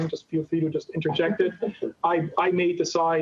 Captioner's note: chuckling